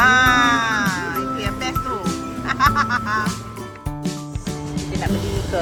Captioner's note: laugh